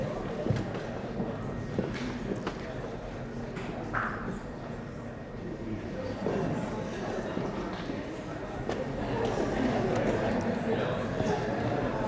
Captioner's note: general chatter